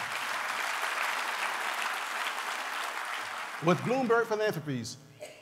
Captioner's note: applause